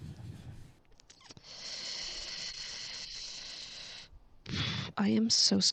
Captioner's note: sucks in a looooong breath